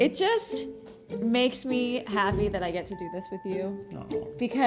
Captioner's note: none